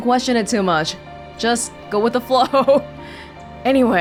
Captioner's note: chuckles